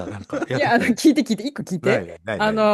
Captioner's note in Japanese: 笑い